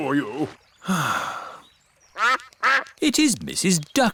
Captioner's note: sighs; quacking